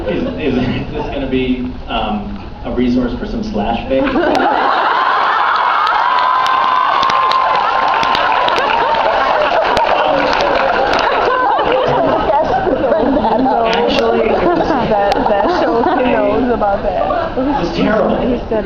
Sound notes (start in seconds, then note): 0.0 laughs; 4.2 laughs, cheers, applauds; 10.5 laughs, applauds; 11.8 laughs; 17.8 laughs